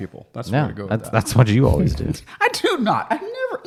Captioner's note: laughing